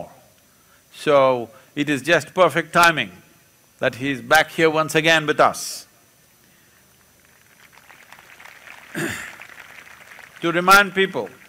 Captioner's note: applause